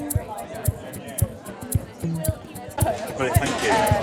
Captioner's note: crowd chatting